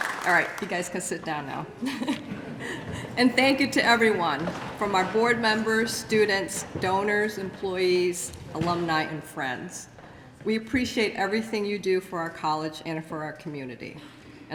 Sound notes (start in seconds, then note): 1.8 laughter